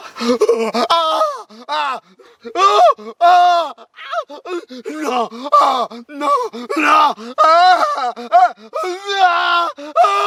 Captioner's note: screaming sound